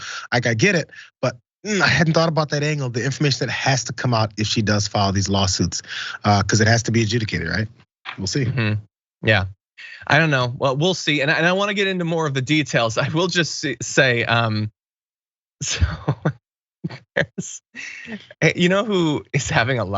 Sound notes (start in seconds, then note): 16.9 laugh